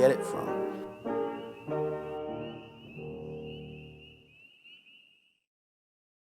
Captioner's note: pleasant upbeat piano music; bugs chitter